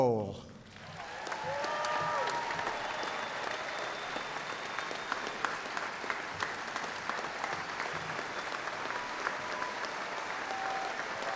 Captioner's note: applause